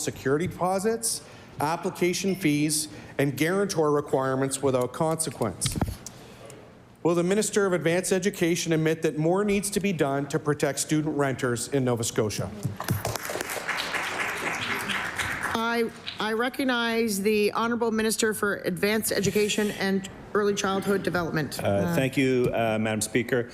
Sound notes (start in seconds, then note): 16.5 applause